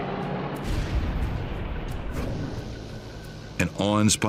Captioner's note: plane crashes